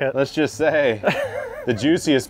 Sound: laughs

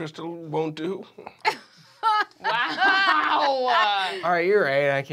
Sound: laughing

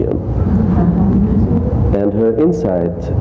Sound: audience laughs

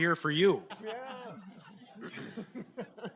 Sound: laughs

